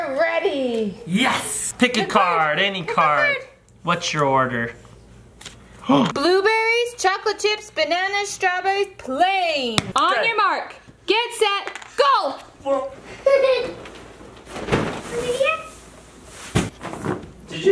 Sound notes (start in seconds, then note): 5.7 gasping; 13.2 laughs